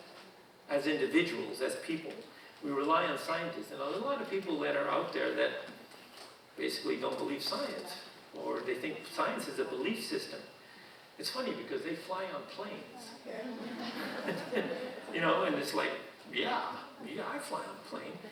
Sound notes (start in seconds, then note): 13.4 audience laughing; 13.8 chuckling